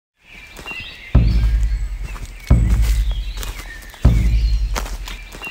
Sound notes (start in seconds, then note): 0.2 birds chirping; 4.6 branch snapping